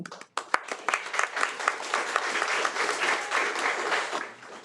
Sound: attendees applaud

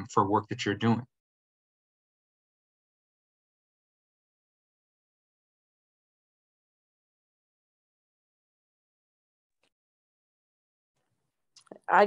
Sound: silence

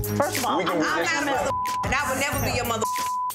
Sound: beep

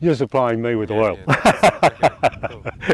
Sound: laughs

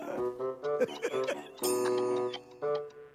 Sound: grand duke giggle chuckles

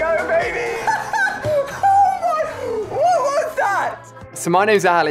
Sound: laughing

